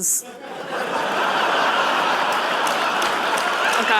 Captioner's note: laughter; applause